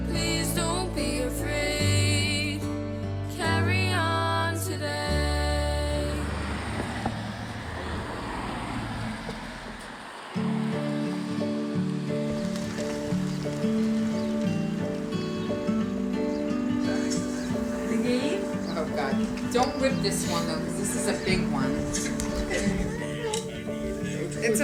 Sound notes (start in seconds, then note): 6.4 engines humming; 10.6 mellow music